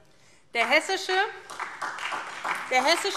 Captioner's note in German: Beifall SPD